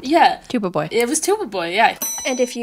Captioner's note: ding